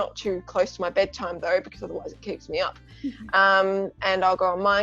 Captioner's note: laughs